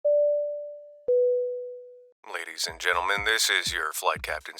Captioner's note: bell dinging